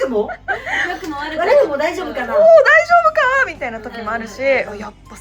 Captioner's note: laughs